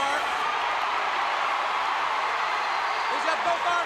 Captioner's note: crowd cheering